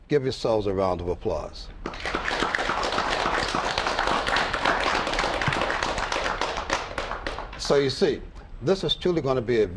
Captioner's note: applause